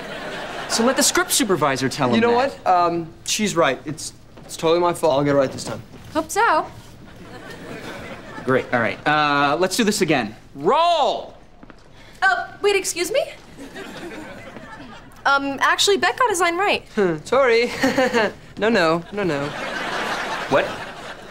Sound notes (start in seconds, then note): 17.6 chuckles